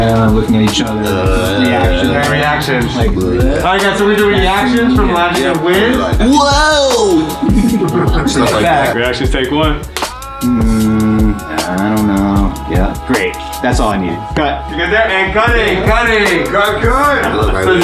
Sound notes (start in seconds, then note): 7.0 all laughing; 9.9 film clapper claps